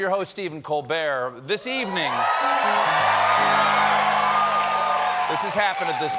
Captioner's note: cheers and applause